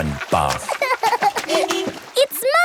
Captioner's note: laughing; car beeps